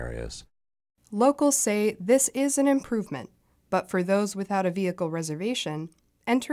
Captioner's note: voice-over